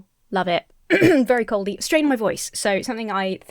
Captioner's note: Emma clears throat